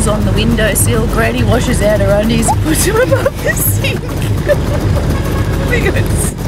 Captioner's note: laughs